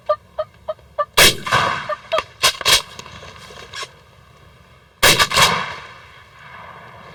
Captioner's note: turkey call noise; gun shot